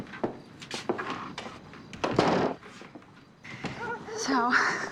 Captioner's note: door closing